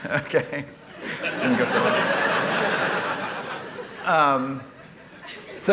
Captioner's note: laughter